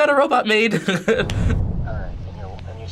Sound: laughs

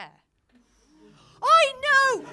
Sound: audience gasps

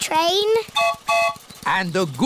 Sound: train whistle blows

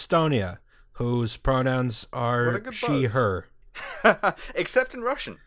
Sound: laughter

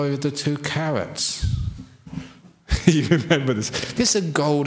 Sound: laughs

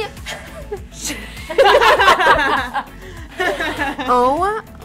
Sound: girls laughing

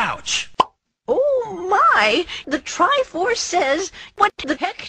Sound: sound of falling, struggling; cartoon pop

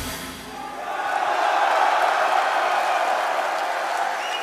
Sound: audience cheering

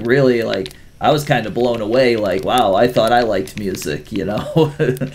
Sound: laughs

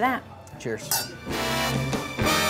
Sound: glasses clink; big band music

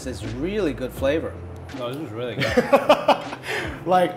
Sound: laughter

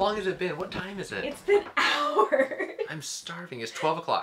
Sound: laughs

